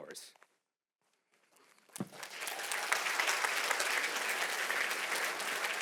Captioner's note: applause